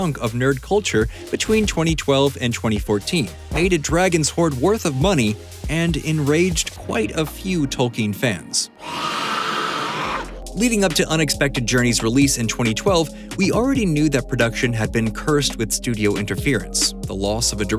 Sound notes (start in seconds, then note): 8.8 screaming